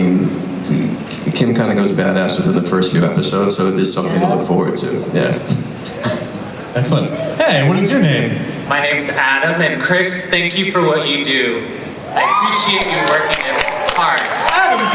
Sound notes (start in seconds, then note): 8.6 voiceover